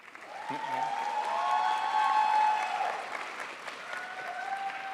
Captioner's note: crowd applauds